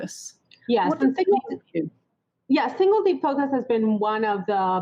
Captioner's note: voice scrambles